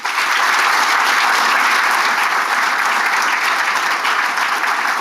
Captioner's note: audience applauding